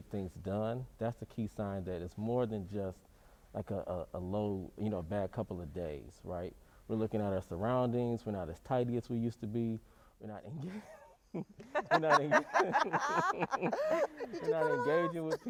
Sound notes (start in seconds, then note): 11.4 all laughing